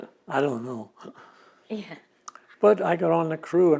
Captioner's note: laughing